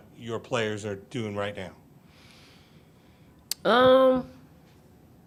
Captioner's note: taking deep breath